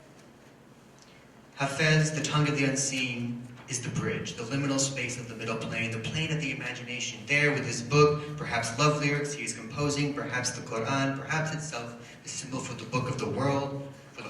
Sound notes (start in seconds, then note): none